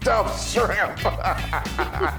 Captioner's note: laugh